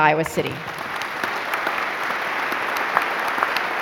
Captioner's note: applauding